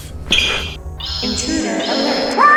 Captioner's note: shoe squeaks